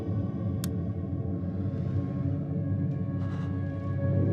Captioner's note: light switch flicks; suspenseful music